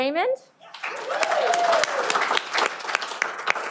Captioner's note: cheering